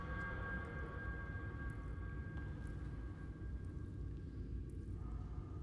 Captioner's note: none